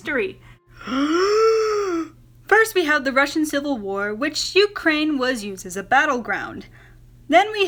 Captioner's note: deep inhale